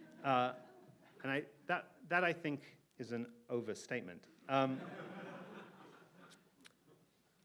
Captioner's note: audience laughs